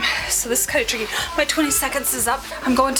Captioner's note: gasps